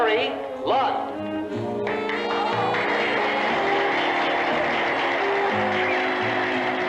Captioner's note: applause